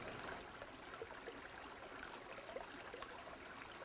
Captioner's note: sound of creek